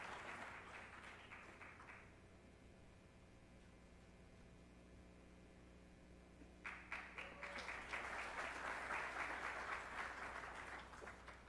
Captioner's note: applause